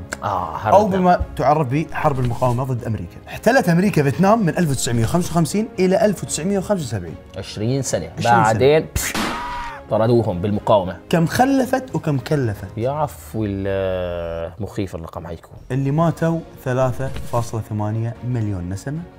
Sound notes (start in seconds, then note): 9.0 gunshot